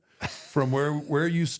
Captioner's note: Michael laughs